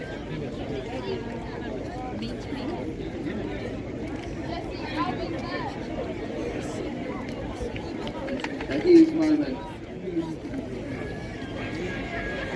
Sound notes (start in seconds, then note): none